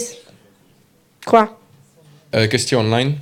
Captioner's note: audience member speaks in French